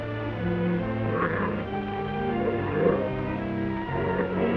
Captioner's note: tiger growls